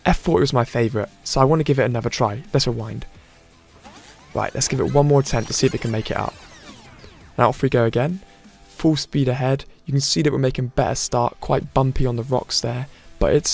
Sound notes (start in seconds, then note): 3.7 rewind sound